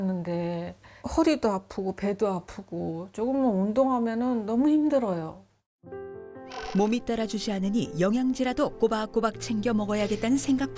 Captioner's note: voiceover